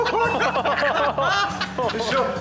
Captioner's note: lalaugughthterer